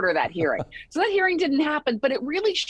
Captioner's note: laughing